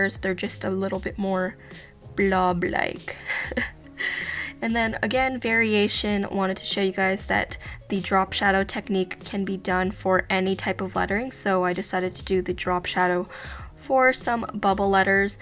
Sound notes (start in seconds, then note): 3.2 laughs